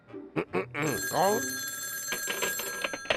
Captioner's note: phone ringing